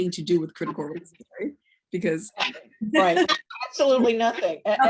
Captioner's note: laughs